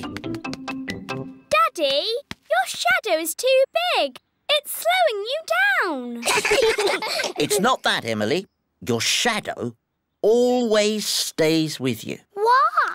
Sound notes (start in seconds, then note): 6.2 all giggle